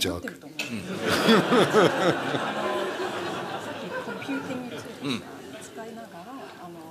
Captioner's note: laughter